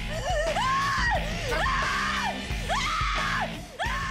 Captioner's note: screaming